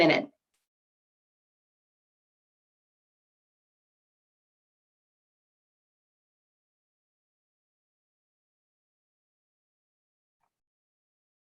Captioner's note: silence